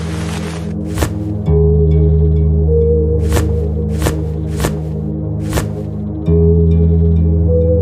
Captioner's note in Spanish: Disparos con arma real